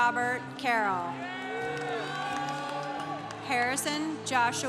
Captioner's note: congregation cheering